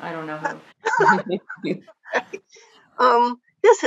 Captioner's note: laughter